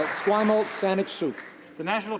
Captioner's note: some Applause